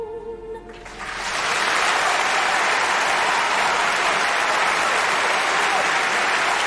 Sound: applause

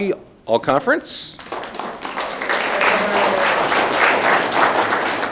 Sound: audience clapping

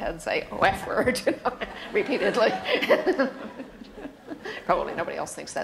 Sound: laughter

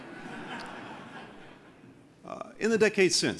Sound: laughter

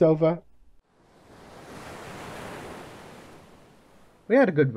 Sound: waves crashing on a beach

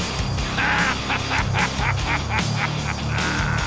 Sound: patriotic laughter

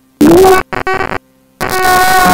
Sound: silence

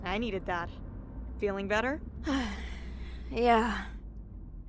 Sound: stifling yawn

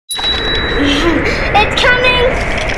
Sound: wind howling

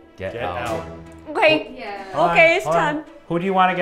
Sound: fear noise

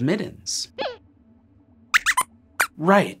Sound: squeaks squeaks

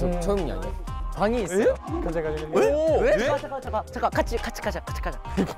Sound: murmuring

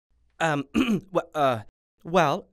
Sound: stammering

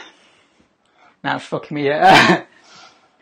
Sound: laughs

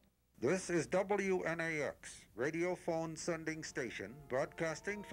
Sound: radio Announcer

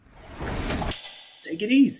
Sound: bell rings

